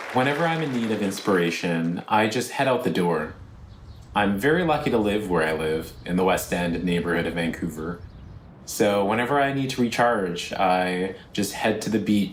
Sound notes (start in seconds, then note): 0.0 applause